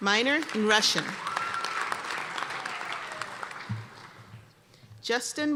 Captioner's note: applause and cheers